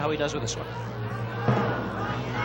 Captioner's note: audience cheering